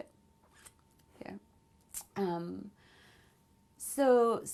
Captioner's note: pauses for 3 seconds